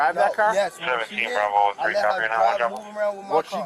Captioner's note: radio chatter